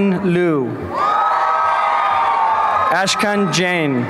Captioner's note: applause and cheering